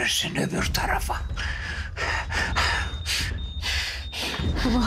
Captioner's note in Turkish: Hızlı soluma sesi